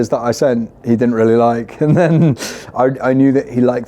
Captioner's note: chuckling